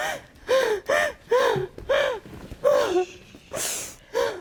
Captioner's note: hyperventilating